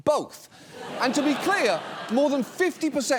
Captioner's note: audience laughs